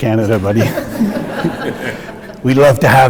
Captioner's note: audience laughing